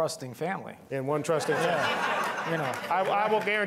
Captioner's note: all laughing